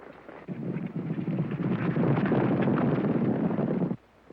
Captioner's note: hooves pounding